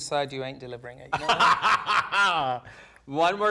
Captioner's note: laughing